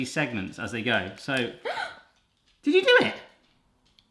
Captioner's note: gasps